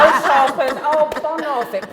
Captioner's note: laughter